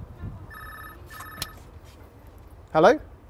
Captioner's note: phone rings